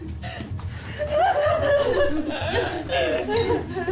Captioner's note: off screen cries increase